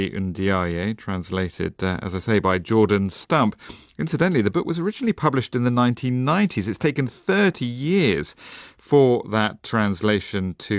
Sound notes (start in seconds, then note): none